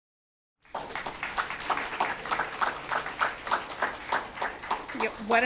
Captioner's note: applause